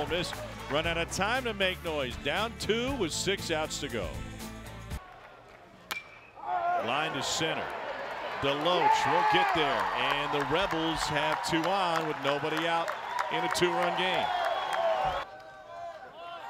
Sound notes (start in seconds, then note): 5.3 crack